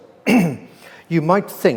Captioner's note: clears throat